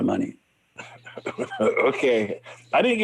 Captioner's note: laughs